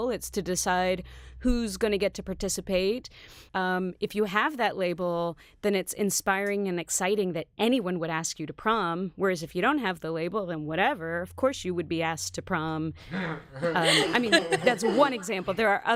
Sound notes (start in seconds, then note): 13.0 laugh